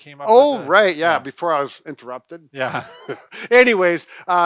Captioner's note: laughs